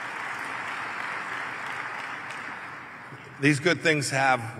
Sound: applause

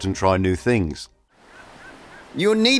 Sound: sound of waves and seagulls

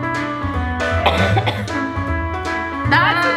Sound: upbeat piano music; coughing

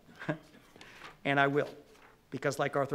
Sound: laughs

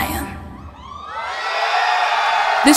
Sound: cheers

